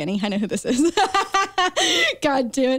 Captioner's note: chuckles